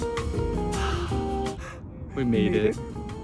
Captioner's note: both sigh